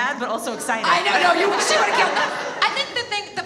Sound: audience laughs

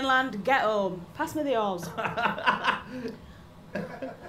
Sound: chuckles

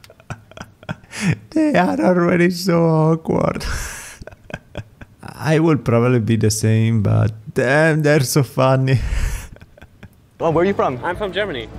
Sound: laughs; laughs

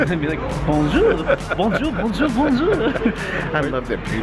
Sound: laughing

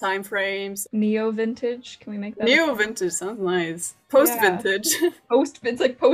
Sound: laughs

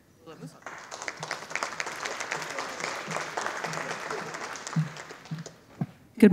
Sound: audience applauding

